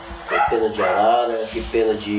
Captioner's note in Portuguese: latidos